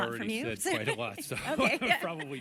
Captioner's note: laughter